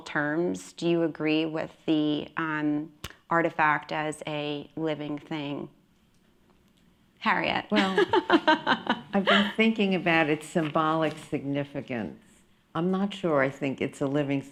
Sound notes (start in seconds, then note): 7.8 laughs